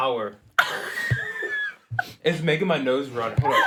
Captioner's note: laughing